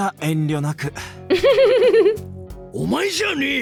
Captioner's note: chuckles